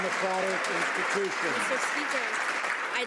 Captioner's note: some Applause